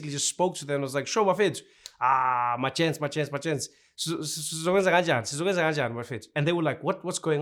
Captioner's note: speaking Zulu